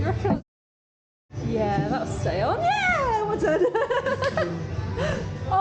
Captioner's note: laughing